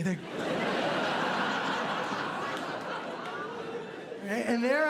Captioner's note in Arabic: ضحك